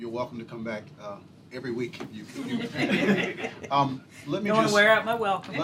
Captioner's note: laughter